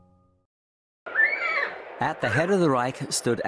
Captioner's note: horse neighing